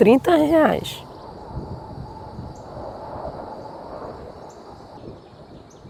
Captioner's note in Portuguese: som de pássaros